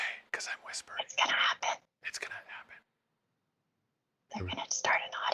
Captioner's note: whispering